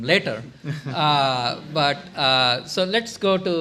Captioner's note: laughter